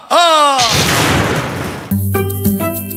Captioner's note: thunder rumbles